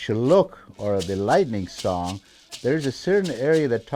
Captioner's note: speaking in foreign language